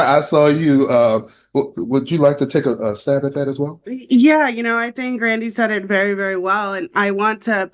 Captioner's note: laughter